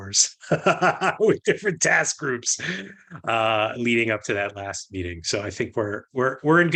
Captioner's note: laughter